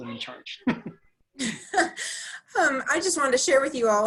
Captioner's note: laughs